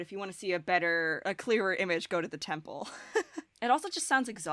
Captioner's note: chuckles